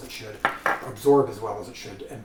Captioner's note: jar clatters